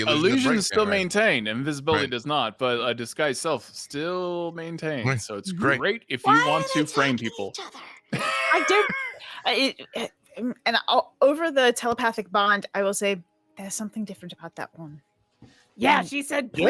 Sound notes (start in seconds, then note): 8.2 wheezes